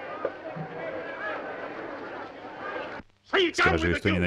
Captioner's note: group chattering